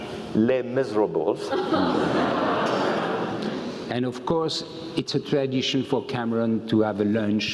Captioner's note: laugh